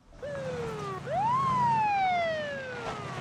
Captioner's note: sirens wailing